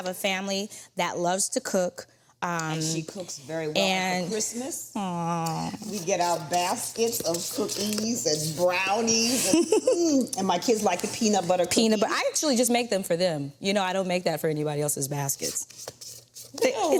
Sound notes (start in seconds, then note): 9.2 laughs